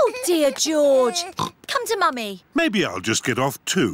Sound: oinks

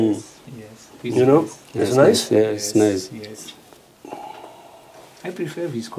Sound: general agreement

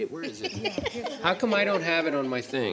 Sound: board laughing

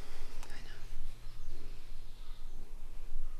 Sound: carla whispering

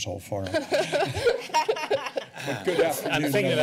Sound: laughter

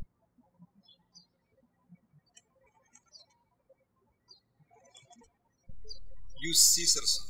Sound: birds chirping

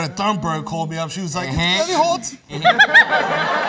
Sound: swedish accent; laughter

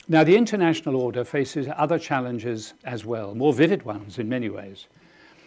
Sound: none

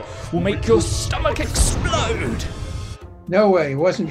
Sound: explosion

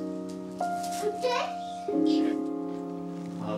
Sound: babbles

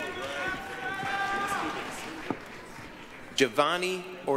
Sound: applause, cheering

